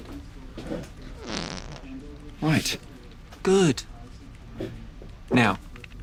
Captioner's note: whoopee cushion farts